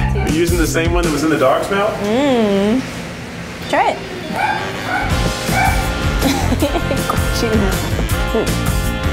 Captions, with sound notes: - Using the same one that was in the dog's mouth? - Mmm! Try it! *laughter*